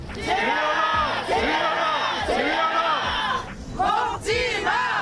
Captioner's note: crowd chanting